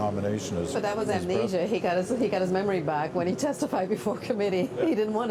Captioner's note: laughter